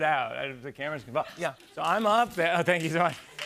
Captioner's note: light applause